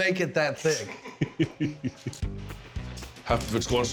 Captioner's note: laughing